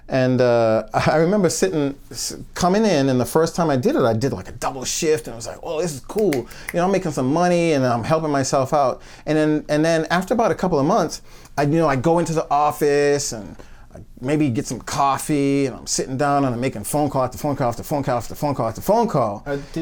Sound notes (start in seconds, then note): 6.2 snaps fingers